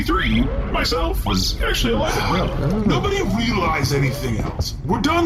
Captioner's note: shouting